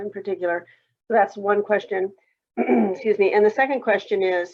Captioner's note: clears throat